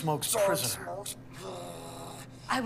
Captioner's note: grumbles